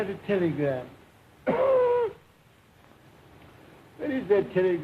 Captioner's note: coughs